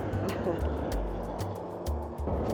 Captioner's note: chuckles